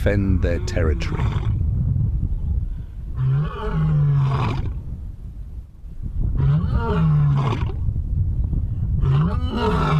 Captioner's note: howls